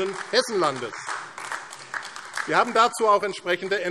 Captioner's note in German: Beifall AfD